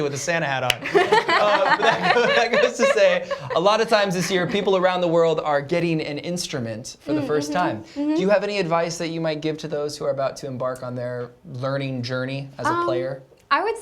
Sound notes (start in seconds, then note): 0.8 laughter